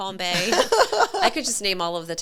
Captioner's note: both laughing